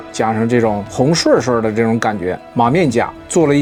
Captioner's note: northeastern dialect